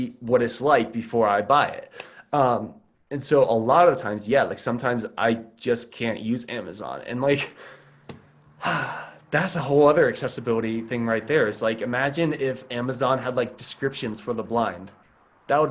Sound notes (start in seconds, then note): 8.5 sighs